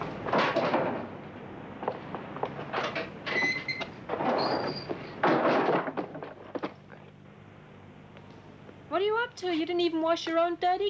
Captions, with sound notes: (metal clanks) (door squeaks) (clatters) - What are you up to,